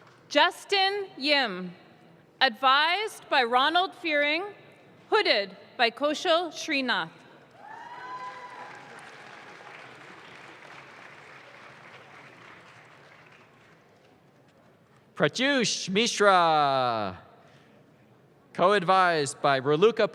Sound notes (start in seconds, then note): 7.6 audience claps